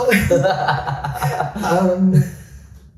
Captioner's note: both laugh